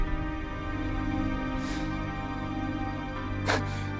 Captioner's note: cries